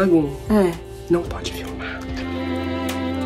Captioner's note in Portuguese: sussurra